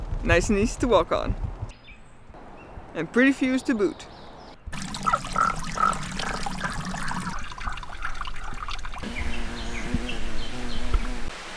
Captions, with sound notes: Nice and easy to walk on. And pretty views to boot. *fogs chirping?* *bee humming*